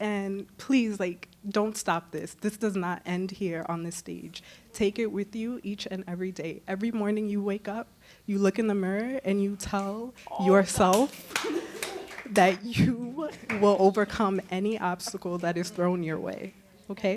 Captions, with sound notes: And please, like, don't stop this. This does not end here on this stage. Take it with you. Each and every day, every morning you wake up, you look in the mirror. [claps] And you tell yourself that you will overcome any obstacle that is thrown your way, okay?